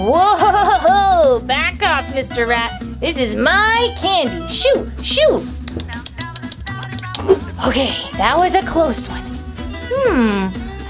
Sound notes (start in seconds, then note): 5.6 rat Nibbling